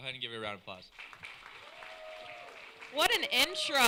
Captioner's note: applause